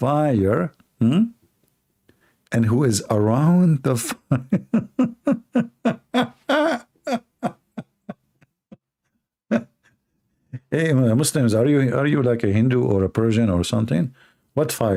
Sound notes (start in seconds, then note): 4.0 Ketawa